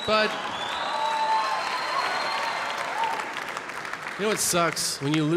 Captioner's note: audience laughing and clapping